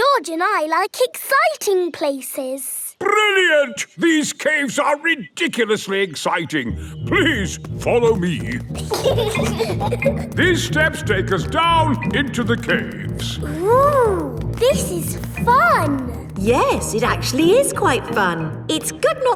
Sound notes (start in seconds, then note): 8.7 giggling